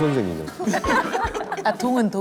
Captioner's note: laughing